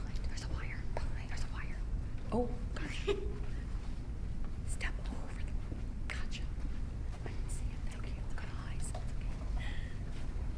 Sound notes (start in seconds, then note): 2.8 laughs